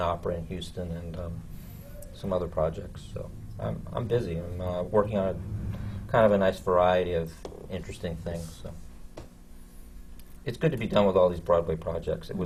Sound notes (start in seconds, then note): none